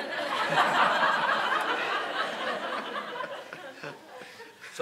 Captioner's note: audience laughing